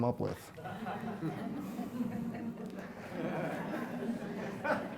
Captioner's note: audience laughs